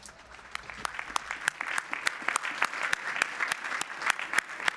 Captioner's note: audience applauds